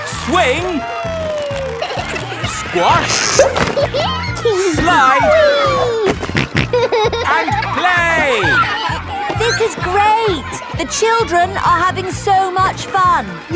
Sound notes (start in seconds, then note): 3.6 giggles; 5.9 snorting